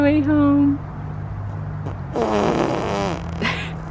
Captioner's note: blows raspberry; laughing